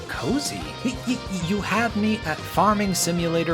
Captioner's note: assorted mouth noises